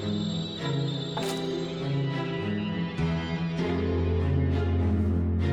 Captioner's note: stick clacking